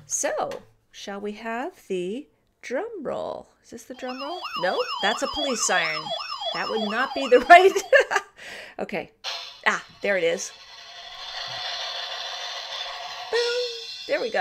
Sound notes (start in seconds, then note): 3.9 toy siren sounding; 7.2 laughs; 10.3 drumroll; 11.9 cymball crash